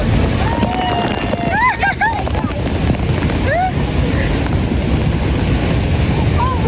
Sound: waterfall ASMR

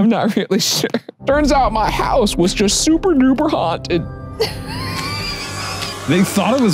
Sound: laughs

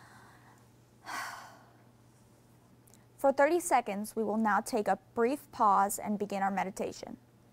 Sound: exhales

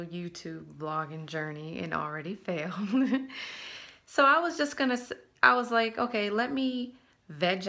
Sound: giggle

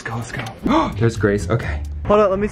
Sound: gasps

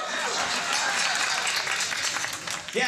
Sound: crowd clapping

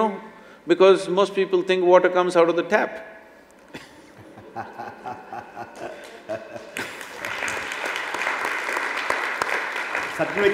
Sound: applause; both laugh

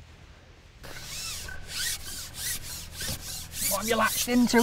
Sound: fishing line zings

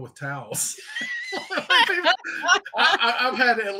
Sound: all laughing

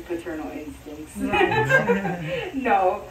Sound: laughing

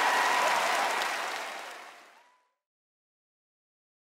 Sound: audience applause

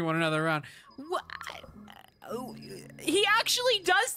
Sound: stammering

